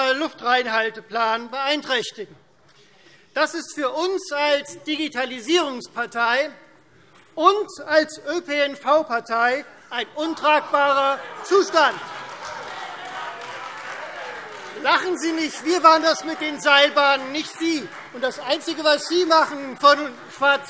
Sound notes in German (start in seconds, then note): 8.5 Lachen SPD und DIE LINKE; 11.7 Beifall Freie Demokraten